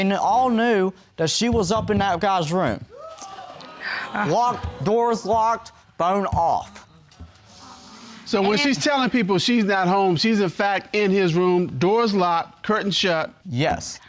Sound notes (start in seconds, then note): 3.0 audience exclaiming